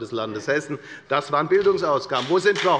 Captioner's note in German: Beifall bei der FDP